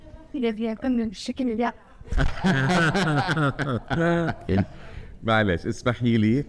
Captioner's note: all laughing; speaking foreign language